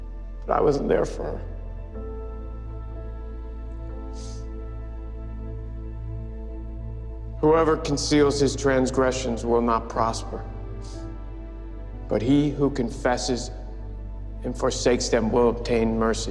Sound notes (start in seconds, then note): 4.0 sniffles; 10.8 sniffles